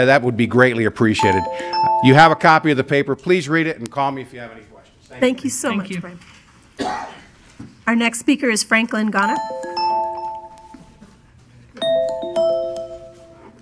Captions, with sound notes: that would be greatly appreciated. You have a copy of the paper, please read it and call me if you have any questions. - [Woman's Voice] Thank you so much, Bryan. Our next speaker is Franklin Ghana. (musical tone)